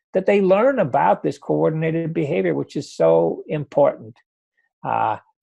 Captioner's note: none